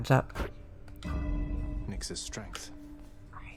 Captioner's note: a bell chimes